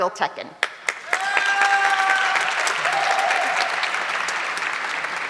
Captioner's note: audience clapping